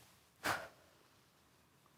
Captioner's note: sharp breath out; soft breaths; rustling